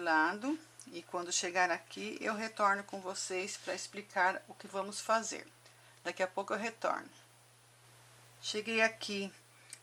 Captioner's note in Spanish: en español